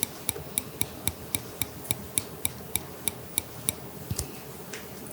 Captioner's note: tap tap